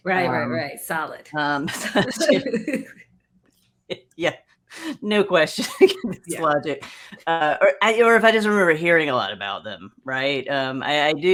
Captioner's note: laugher